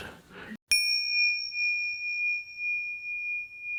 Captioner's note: bell chimes